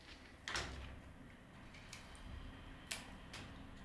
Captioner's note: quiet cutting noises